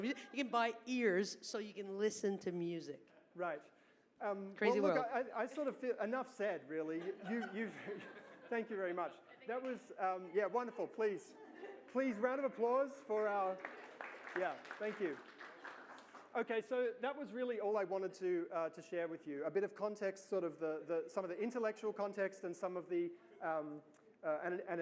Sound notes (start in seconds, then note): 6.8 laughter; 13.2 applause